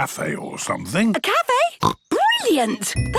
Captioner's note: snorts